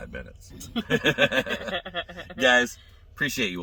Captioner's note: both laughing